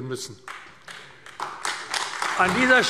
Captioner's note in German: Beifall AfD